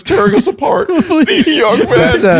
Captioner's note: laughter